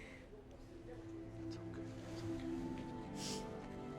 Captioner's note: Tommy whispers